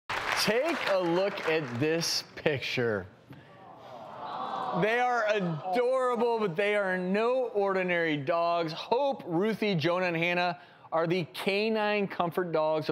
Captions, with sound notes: (audience applauding) Take a look at this picture. (audience moaning) The are adorable, but they are no ordinary dogs. Hope, Ruthie, Jonah, and Hannah are the Canine Comfort Dogs